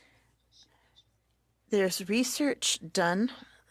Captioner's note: speaking French